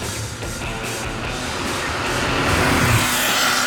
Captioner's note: engine revving